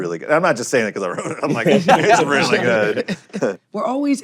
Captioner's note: laughter